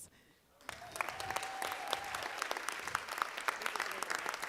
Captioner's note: applause